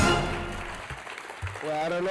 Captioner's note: applause